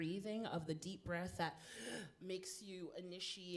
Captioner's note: inhales